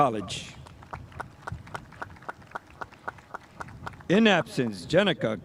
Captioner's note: spectators applauding